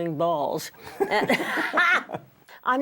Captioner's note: laughter